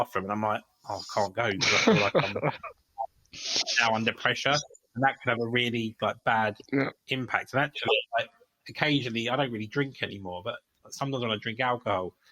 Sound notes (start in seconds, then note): 1.6 laughter